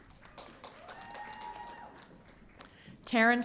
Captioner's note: audience cheering